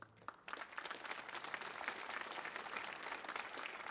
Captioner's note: audience applauds